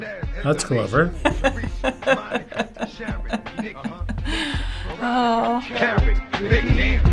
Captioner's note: chuckling